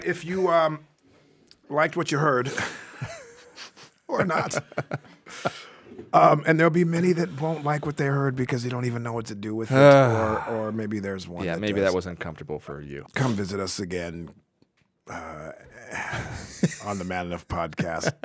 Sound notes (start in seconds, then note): 2.5 laughing; 9.7 sighing